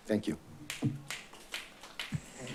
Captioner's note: applause